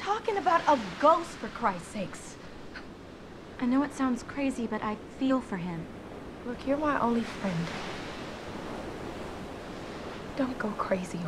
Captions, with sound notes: (waves crashing) - He looks real, Tiff. He's real.